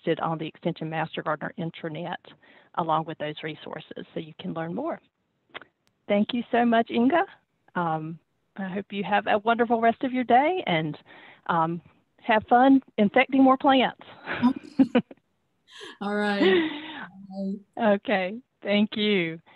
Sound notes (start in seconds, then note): 14.2 laughs